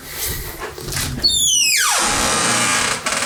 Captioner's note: squeaky door hinges